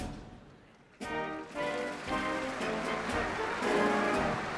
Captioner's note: applause